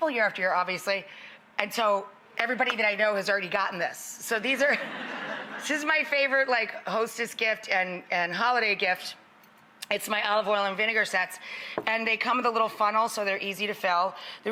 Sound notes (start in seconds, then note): 4.7 audience laughs